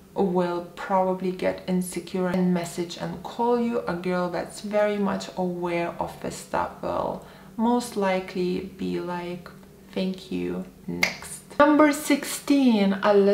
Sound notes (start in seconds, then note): 11.0 snaps fingers